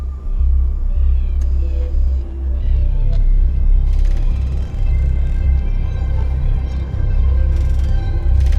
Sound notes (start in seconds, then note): 1.1 birds chirping